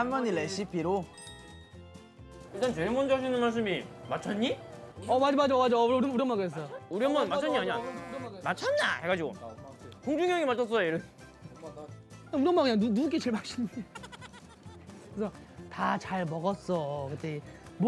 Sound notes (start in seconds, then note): 9.3 dialect; 13.6 laughing